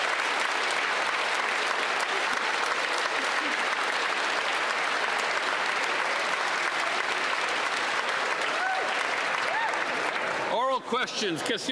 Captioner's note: applause